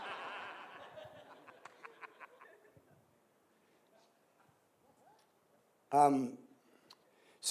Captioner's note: laughter